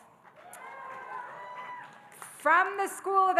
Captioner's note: audience cheering and applauding